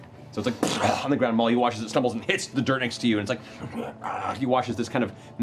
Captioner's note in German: stöhnt